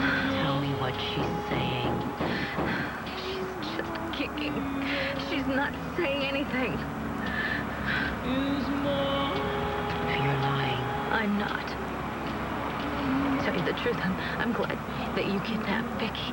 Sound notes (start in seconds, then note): 1.2 radio plays music; 3.3 thumping